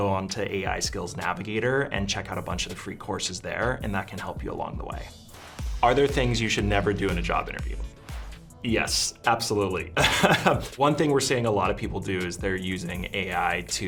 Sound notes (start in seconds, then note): 10.0 laughter